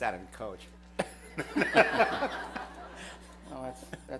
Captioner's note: laughter